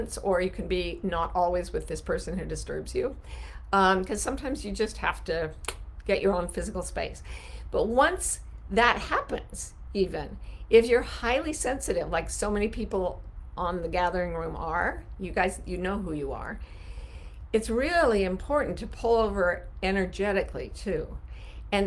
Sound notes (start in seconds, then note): 5.6 snapping tongue